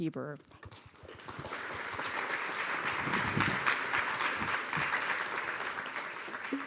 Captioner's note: applause